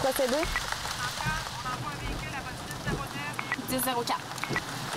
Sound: Central on radio

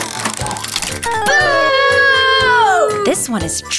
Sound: audience booing

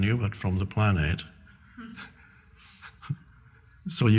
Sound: everyone laughing

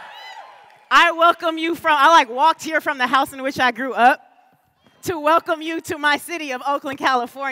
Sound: cheers and applause

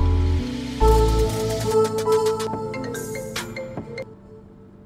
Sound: phone rings

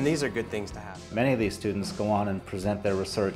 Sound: voiceover

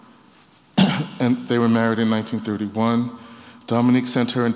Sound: coughs

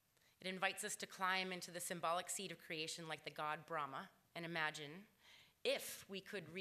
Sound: none

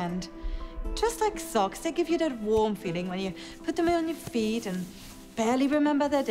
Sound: socks sliding onto feet

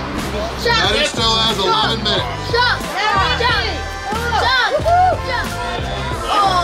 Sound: cheering

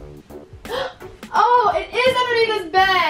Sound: gasps

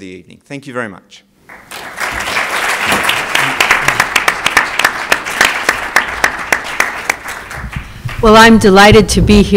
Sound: applause

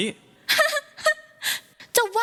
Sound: laughing

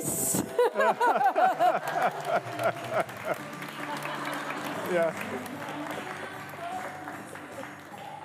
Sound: laughter & Applause

